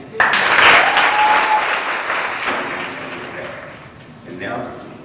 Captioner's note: audience applause